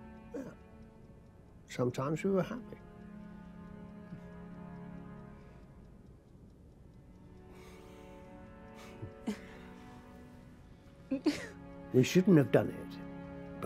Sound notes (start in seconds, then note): 4.0 dramatic string music; 8.8 both chuckling